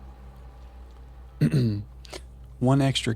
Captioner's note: clears throat